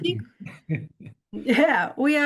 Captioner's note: chuckles